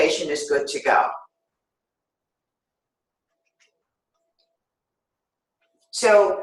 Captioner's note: silence